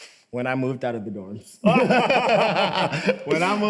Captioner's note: both laugh